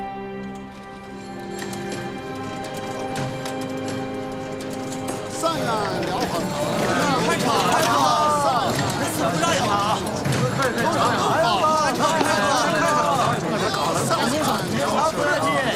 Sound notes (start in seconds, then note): 5.5 marketplace chatter